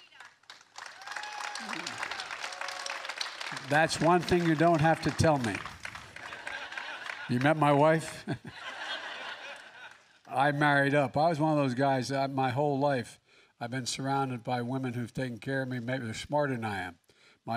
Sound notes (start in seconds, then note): 2.4 applause; 6.2 laughter; 9.0 laughs